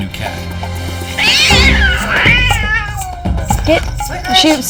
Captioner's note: Licorice yowling